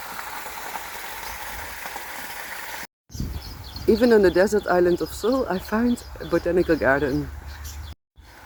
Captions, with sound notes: (sound of water flowing) Even on the desert island of Sal, I found a botanical garden!